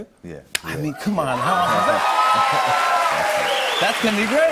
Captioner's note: cheers and applause